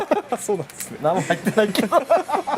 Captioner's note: laughs